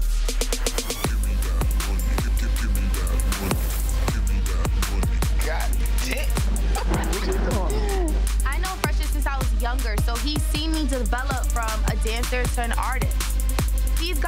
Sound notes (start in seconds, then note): 6.0 laughing